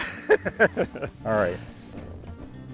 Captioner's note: laughs